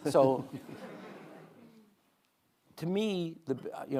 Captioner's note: audience laughing